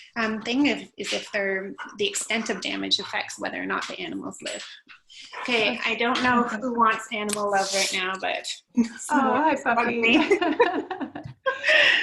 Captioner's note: laughter